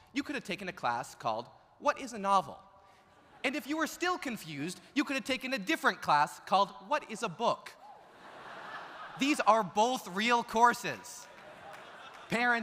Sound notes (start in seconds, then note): 8.0 audience laughs